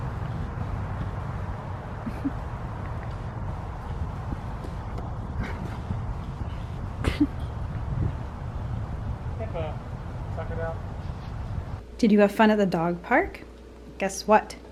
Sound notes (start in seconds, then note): 2.0 chuckles